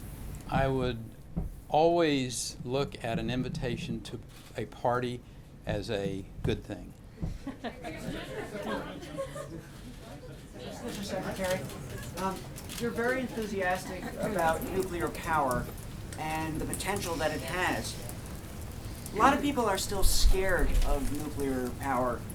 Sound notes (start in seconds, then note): 7.3 laughter